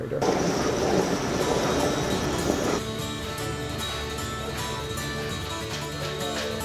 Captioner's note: machine roars; upbeat bluegrass music